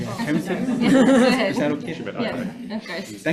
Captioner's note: committee members laugh and chatter